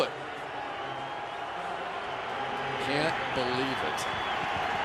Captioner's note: pa announcement